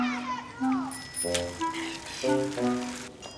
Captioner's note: Timbre de bicicleta